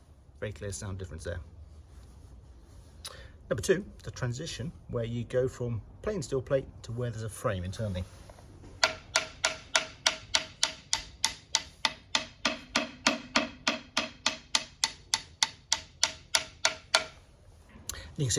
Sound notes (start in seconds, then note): 13.7 tapping sounds